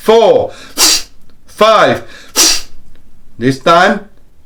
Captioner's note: deep breaths